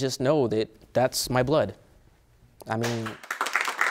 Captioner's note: audience applauding